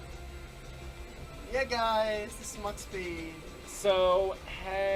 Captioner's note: in a stereotypical gay voice